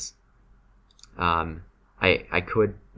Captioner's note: still clicking with mouse